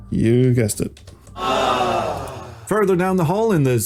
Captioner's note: audience awws